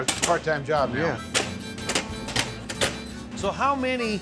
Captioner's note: chopping sound